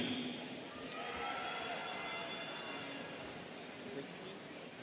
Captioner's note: students cheering